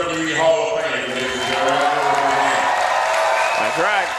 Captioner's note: audience cheering drowns out speech